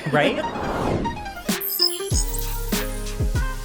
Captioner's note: graphic buzzing; pensive music; upbeat music